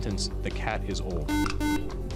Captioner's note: beep